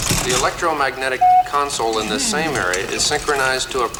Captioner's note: beep